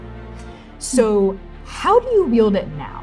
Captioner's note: scoffing